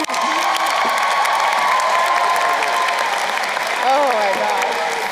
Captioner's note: chuckles; crowd cheering and applauding